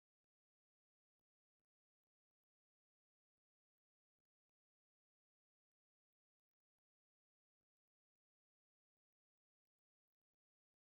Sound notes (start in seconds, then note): none